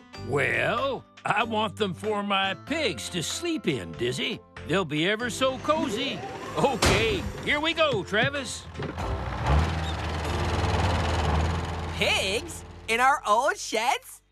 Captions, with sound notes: WELL, I WANT THEM FOR MY PIGS TO SLEEP IN, DIZZY. THEY'LL BE EVER SO COZY. OKAY, HERE WE GO, TRAVIS. ( Tractor Rumbling ) PIGS?! IN OUR OLD SHEDS?!